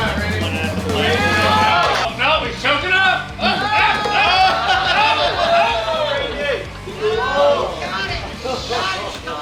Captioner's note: cheering